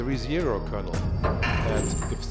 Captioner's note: door opening sound